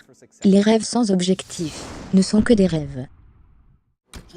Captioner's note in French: whooshing